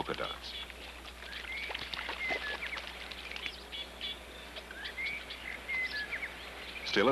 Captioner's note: chirping, Birds Whistling, Water Splashing